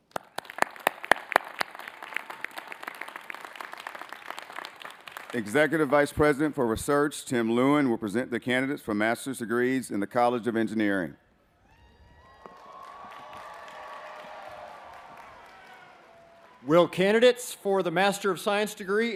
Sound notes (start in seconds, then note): 3.3 applause